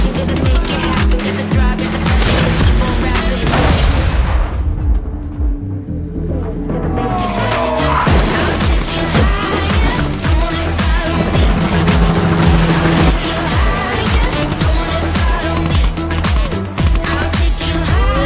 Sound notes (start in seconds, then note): 0.2 gunshots banging; 2.2 explosion booming; 8.0 car crashing; 11.6 lively music continues; 14.6 gunshots banging